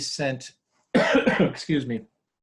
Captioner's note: coughing